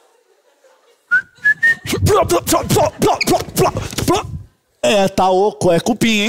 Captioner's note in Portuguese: assovio